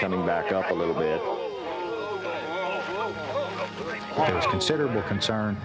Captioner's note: men exclaiming